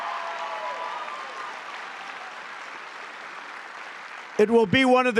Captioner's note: applause